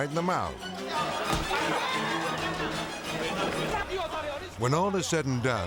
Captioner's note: dramatic music; people hollering